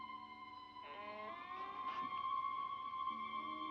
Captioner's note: door creaks open; eerie music